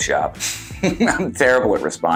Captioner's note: laughs